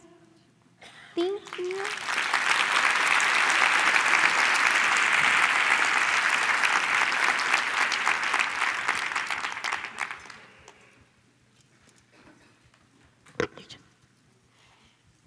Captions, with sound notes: I AGREE. TOTALLY AGREE. THANK YOU. THANK YOU. [ APPLAUSE ]